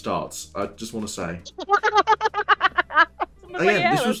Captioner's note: laughter